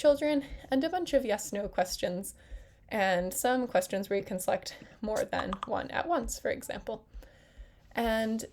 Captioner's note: click sounds